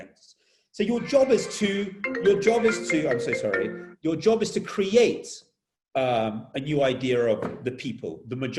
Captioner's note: phone rings and stops